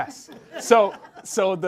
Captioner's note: group laughs